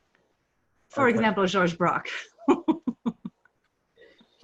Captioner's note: laughs